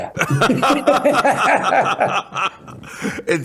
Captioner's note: laughter